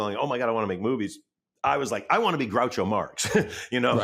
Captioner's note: chuckles